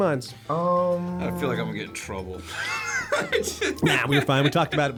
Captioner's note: laughs